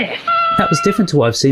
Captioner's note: whistles